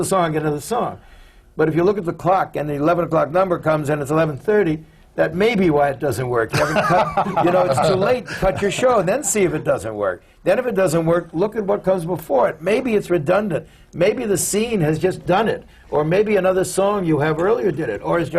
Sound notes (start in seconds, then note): 6.5 laughter from the panel